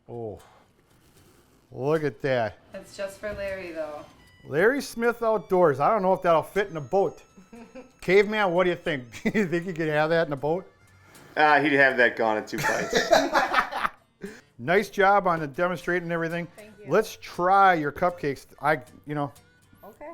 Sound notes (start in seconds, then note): 7.4 giggles; 12.5 laughter